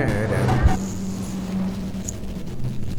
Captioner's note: music abruptly stops when the same animal growls